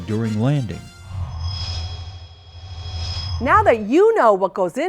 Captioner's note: sound Effects